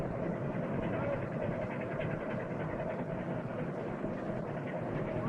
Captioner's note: machinery rumbling